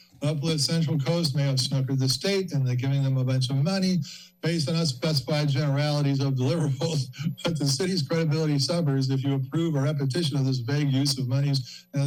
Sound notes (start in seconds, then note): 6.5 chuckles